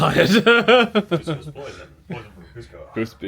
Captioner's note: laughs